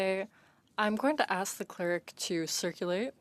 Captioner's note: speaking French